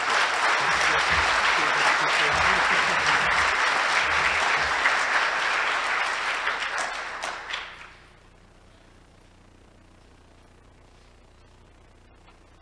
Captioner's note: applause